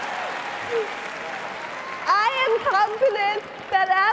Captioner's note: cheering and applause